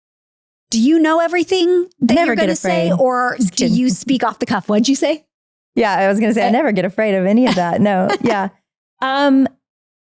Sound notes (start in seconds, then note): 7.4 chuckling